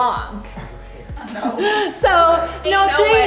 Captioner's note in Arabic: أطفال يضحكون ويخالفون